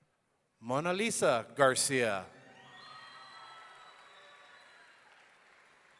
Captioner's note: audience cheering